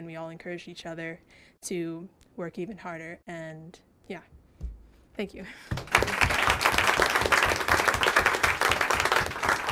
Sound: applause

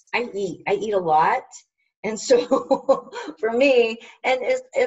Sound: laughs

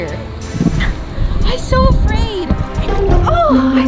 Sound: gasps

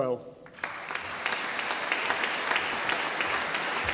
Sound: audience applauding

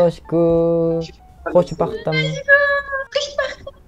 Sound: Farsi

